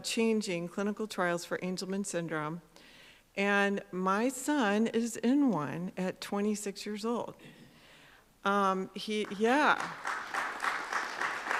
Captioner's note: applause